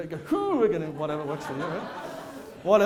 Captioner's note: audience laughter